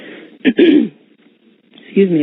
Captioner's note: clearing throat